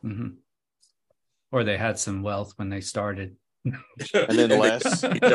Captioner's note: laughs